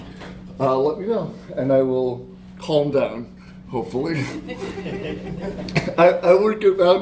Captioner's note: laughter